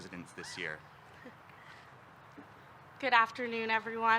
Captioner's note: chuckles